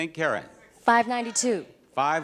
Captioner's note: audience chatters